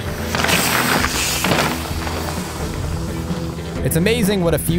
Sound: bike tires crunch gravel

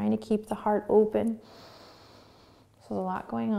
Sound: inhaling

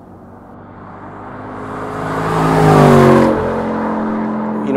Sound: engine revving

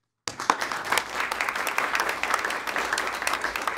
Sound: applause

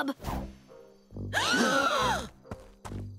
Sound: gasping

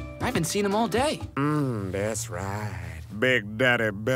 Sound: seductive Radio Voice

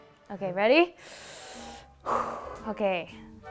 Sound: deep breath

